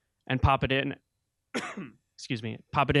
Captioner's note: coughing